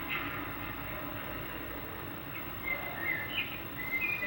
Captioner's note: birds chirping